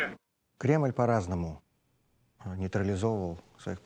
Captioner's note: speaking Russian